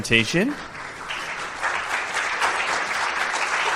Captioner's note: applause